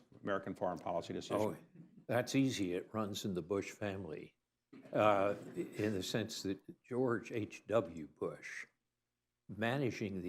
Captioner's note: laughter